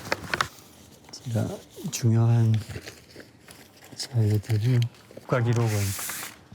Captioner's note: speaking Korean